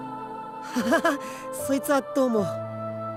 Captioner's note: awkward laugh